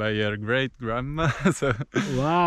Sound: laughs

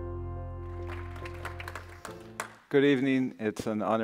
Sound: audience applauding

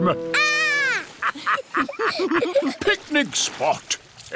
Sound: laughter

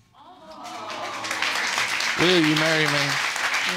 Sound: audience exclaiming and applauding

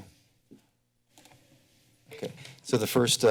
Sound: creaking sound

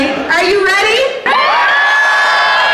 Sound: cheering

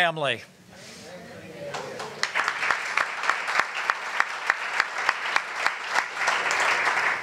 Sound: applause

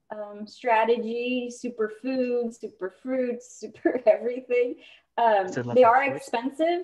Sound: laughter

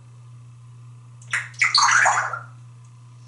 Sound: water sound

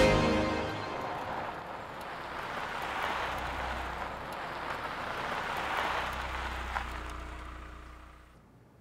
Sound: car engine

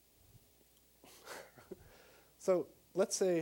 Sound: chuckling

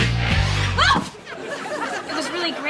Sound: shrieks

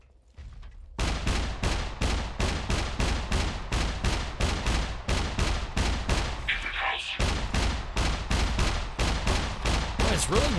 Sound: mech Gunshots

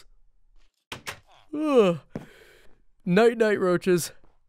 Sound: yawns

